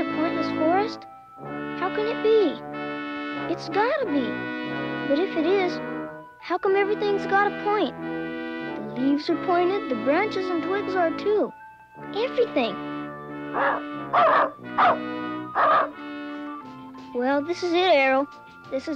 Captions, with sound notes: How can it be? It's gotta be. But if it is, how come everything's got a point? The leaves are pointed. The branches and blades are, too. Everything-- (Arrow barking) Well, this is it, Arrow. This is the beginning of the place we were banished to.